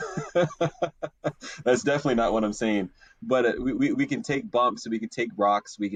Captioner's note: laughs